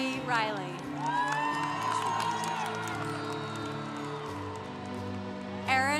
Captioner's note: congregation cheering